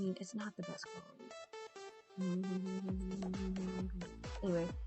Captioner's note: humming for no reason??